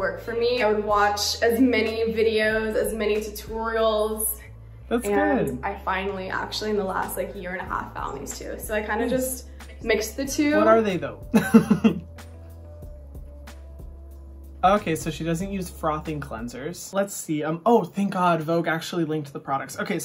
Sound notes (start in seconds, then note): 11.3 laughs; 12.6 soft music